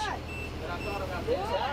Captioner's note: beeping sound